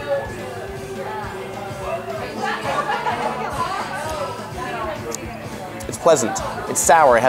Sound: indistinct background chatter

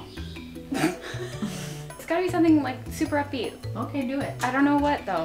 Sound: laughs

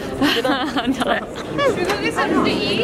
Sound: laughing

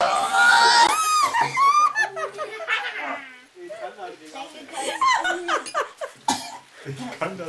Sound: verry happy laughter

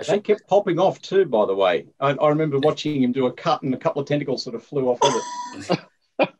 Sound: laughter

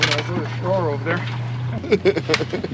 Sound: clattering; laughing

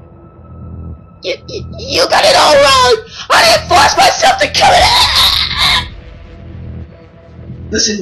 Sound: choking

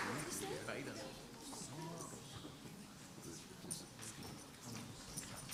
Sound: indistinct background chatter

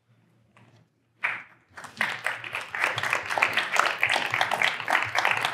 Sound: applause

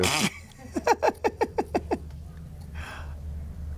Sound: woman laughs

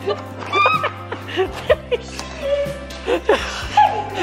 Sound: laughing

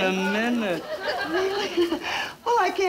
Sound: chuckling

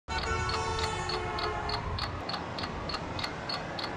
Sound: car horns; clock ticking; traffic whizzing

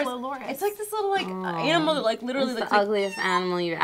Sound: meows

